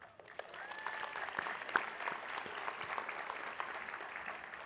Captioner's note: audience applauding